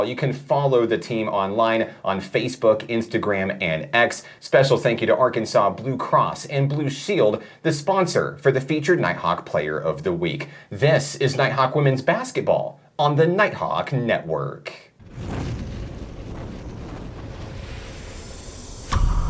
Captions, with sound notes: You can follow the team online on Facebook, Instagram, and X. Special thank you to Arkansas Blue Cross and Blue Shield, the sponsor for the featured Nighthawk player of the week. This is Nighthawk Women's Basketball on the Nighthawk Network. (wind roars)